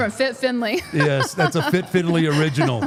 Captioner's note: Michelle laughs